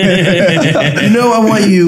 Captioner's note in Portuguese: todos rindo